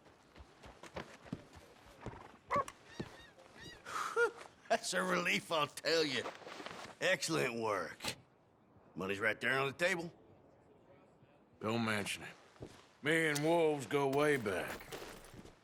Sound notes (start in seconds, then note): 3.8 sighs